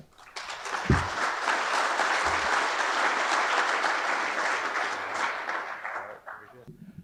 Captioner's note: audience applause